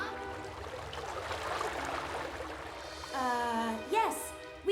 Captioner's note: water Rushing